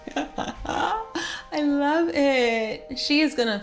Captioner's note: laughs